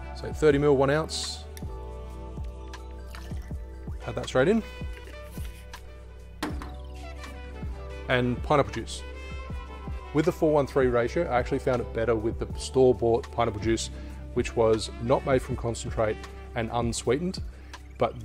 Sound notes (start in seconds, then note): 2.8 liquid splashing; 5.4 slow jazz music continues